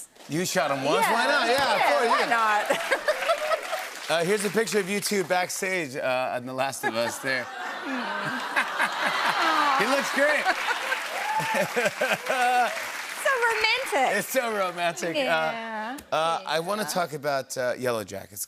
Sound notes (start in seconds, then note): 7.4 audience awws; 11.1 laughs